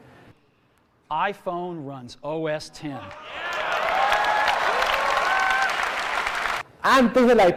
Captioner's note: cheering